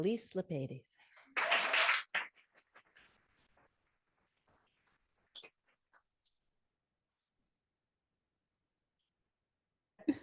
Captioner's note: audience applauding